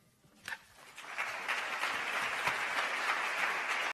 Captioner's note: applause